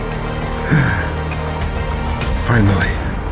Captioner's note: gasp